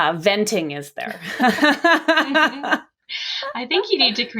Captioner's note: laughing